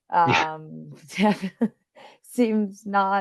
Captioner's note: laughing